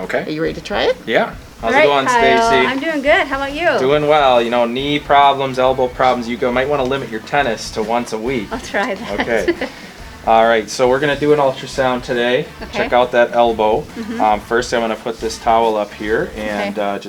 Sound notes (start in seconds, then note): 8.9 laughter